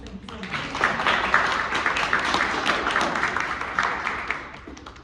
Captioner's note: audience applauds